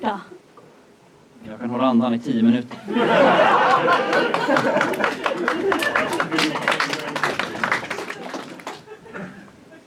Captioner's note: laughter and applause